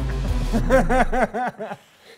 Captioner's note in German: Spannungsvolle Musik; Lachen